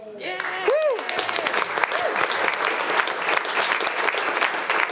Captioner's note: attendees applauding